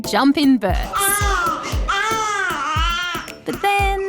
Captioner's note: baby cries